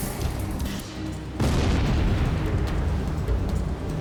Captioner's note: explosion booming